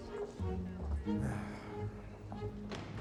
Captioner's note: sighs